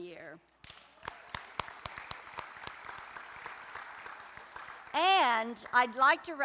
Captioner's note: applause